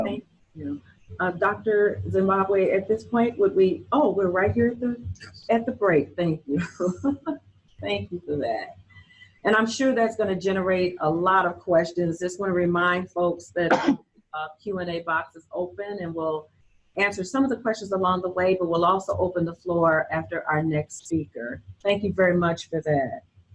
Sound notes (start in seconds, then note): 6.9 chuckles